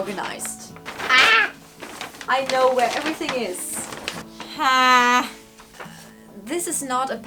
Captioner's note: sarcastically; small yelp; sarcastically; longer, frustrated yelp